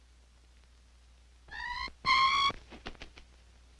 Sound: screeches

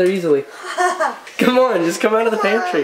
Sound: laughs

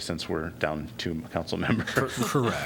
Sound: laughter

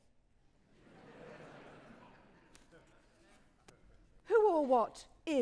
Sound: audience laughing

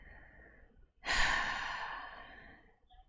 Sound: sighs

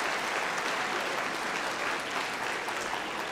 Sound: applause

